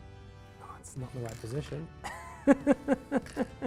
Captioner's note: laughs